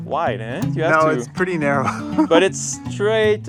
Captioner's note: laughs